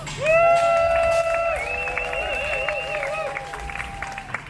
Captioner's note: crowd cheers loudly